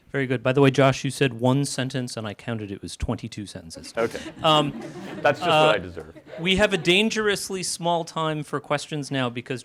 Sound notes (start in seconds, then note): 3.9 audience laughing